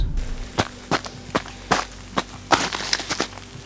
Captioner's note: ice crunching